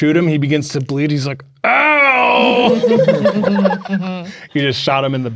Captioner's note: players laughing